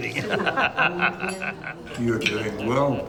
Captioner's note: laughs